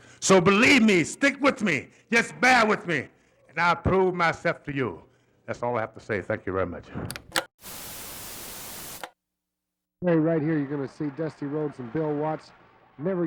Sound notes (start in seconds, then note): 7.1 television clicks; 7.6 static crackling